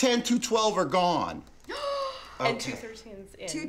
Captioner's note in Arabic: امرأة تلهث